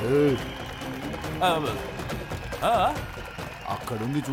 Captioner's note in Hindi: तालियाँ